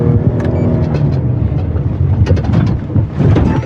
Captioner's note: engine vving